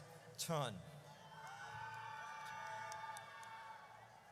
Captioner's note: audience cheers